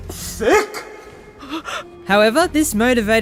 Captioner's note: gasps in Japanese